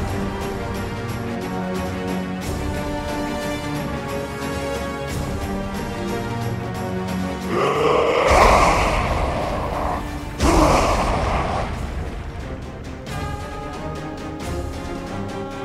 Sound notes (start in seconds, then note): 10.4 screams